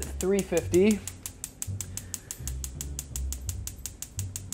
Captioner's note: stove clicking